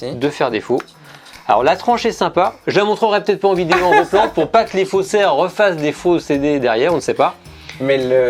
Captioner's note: laughs